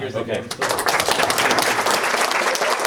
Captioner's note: applause